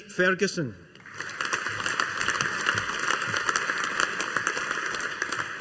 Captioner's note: audience applauding